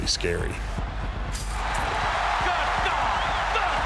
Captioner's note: crowd cheers wildly